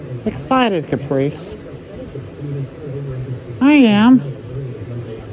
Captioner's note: "21Alive News at 4" plays in background